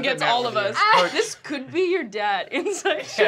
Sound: laughter

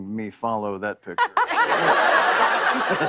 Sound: laughter

